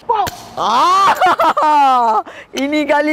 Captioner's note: laughing